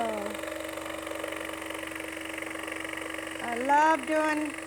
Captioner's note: sawing